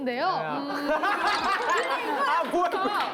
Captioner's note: laughing